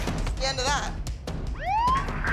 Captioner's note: police siren